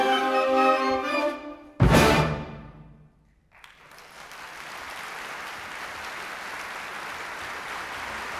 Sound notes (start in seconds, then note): 3.4 applause